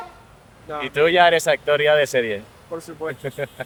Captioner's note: in spanish